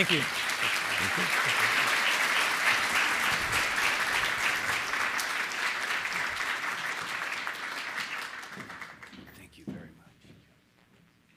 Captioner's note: applause